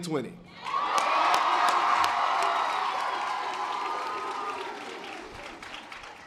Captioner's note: members of the audience cheering